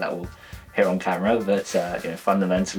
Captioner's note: laughs